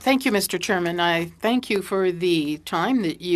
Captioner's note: speaking French